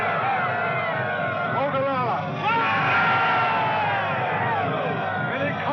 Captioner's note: indians hollering